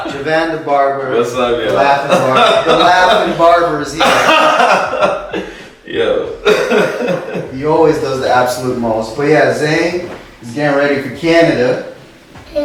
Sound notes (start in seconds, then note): 4.6 laughing